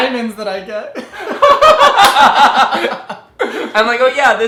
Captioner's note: laughing